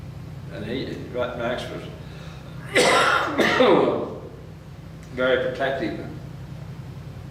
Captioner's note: coughs